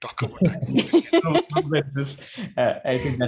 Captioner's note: chuckles